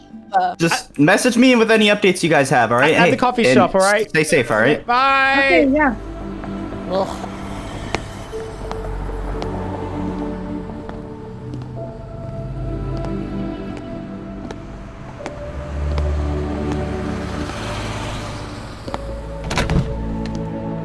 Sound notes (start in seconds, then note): 15.8 car Driving Past